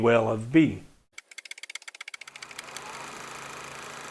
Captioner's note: typewriter typing; projector whirring